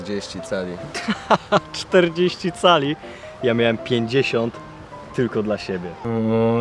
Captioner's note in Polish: śmiech